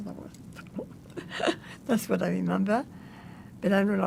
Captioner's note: laughing